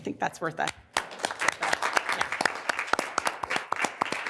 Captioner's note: applause